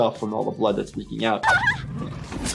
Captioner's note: character cries; blood sloshes